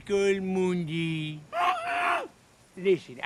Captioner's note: muffled shouting